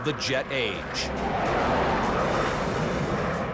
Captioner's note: engines blaring